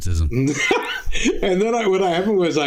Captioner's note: laughing